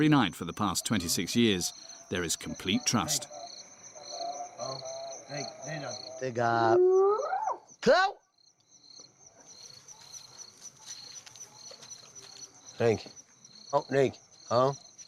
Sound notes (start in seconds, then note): 4.5 speaking in foreign